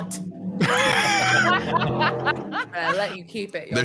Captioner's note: engine rumbling; people laughing